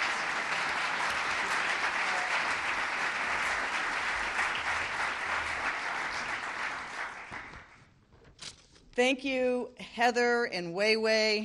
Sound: applause

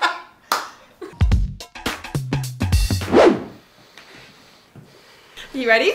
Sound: laughing; claps; upbeat music

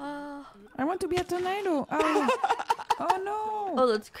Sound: yawns; laughing

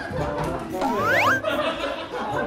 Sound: sound effect:hop

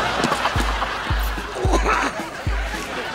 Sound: vomiting

